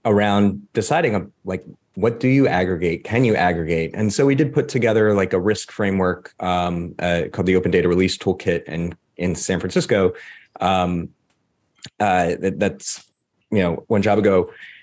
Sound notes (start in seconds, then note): none